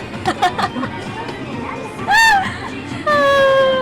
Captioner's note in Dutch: lacht